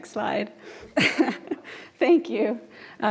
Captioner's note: laughs